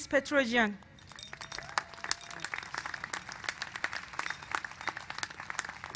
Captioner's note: applause